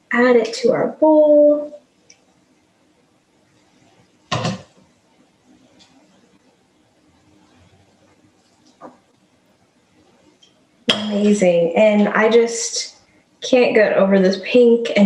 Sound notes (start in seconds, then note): 4.3 utensil thudding